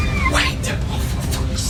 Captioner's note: dramatic music; creature shrieking